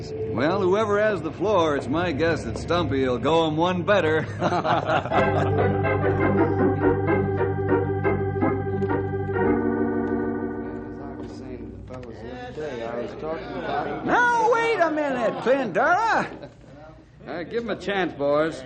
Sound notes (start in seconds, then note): 4.2 laughing